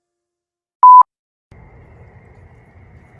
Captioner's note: beep